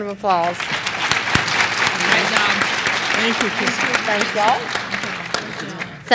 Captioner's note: applause